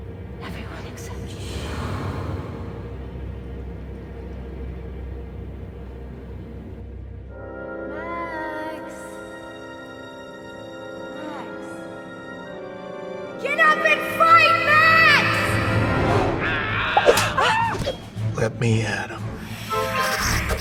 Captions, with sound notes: Everyone except you. - Max! Max! Get up and fight, Max! (Max moans) (Dell shrieks) - Let me at 'em. (vampire hissing) (lights buzzing)